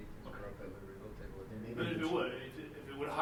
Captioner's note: speaking off mic